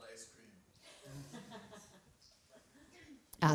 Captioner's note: laughter